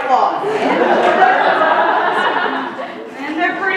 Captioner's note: laughter